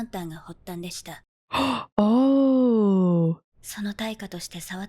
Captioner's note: gasp